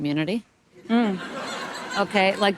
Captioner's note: audience laughing